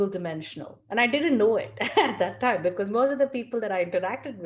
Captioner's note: laugh